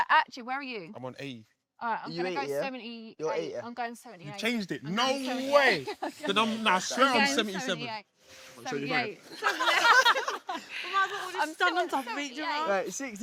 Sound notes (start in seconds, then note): 5.6 laughs; 9.3 hosts laughing